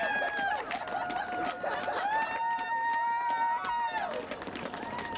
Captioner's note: cheers, laughter, applause